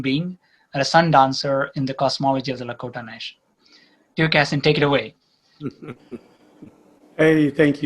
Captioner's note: Sadhguru laughs